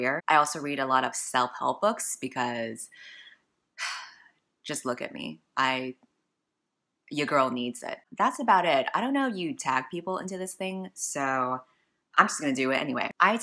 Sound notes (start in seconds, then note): 3.9 sigh